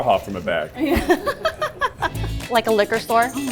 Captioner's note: laughing